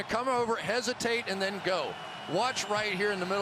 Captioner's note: cheering